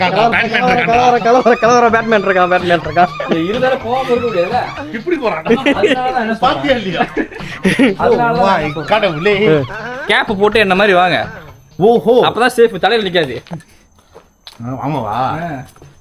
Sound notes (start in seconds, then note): 0.0 laughter